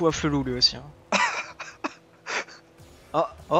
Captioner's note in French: Rires